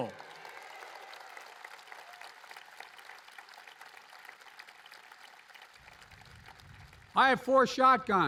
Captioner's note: applause